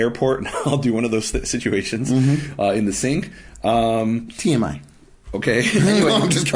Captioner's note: laughing